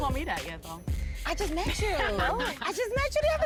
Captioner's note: Erica laughs